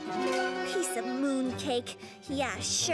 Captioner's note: none